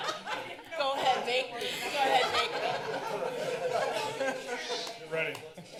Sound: laughter

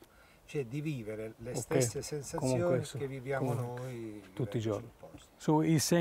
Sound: speaking Italian

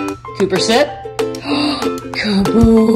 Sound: gasps

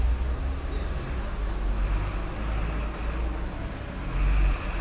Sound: engine rumbling; people chattering

